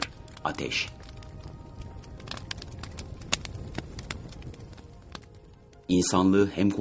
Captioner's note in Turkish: odun çitirtilari